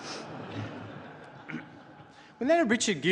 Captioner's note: laughter; clears throat